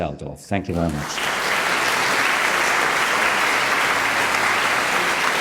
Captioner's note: audience applauds